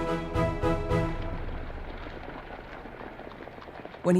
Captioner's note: footsteps shuffling